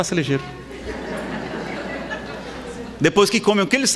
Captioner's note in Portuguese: risadas